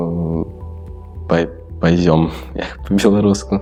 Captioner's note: says in Polish